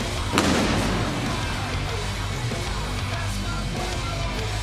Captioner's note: pyrotechnics bang; intense music; singer vocalizing